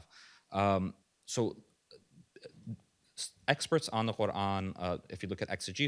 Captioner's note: stammers